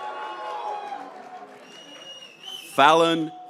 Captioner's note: graduates cheering